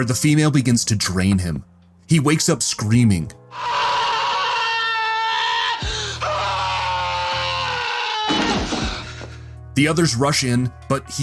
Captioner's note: Carlson Screaming